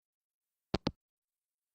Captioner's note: hangup